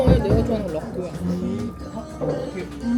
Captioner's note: confused